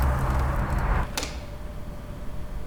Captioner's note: door opens